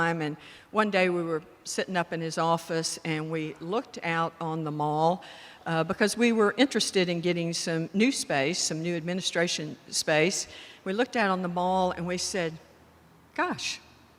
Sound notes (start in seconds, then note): none